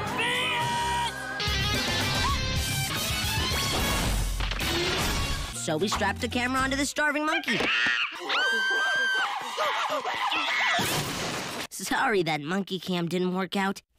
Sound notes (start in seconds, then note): 7.7 screeches in bananas